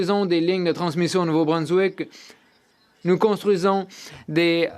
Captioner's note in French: voix de l'interprète